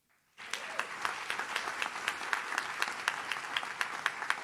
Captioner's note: audience claps